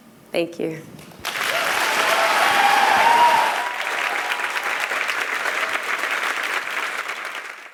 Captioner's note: applause